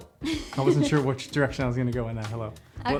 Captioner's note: laughs